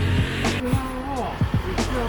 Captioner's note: train